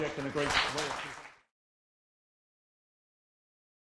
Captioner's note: applause